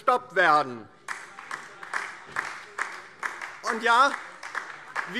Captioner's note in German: Beifall DIE LINKE